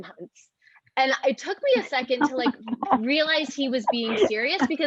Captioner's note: chuckles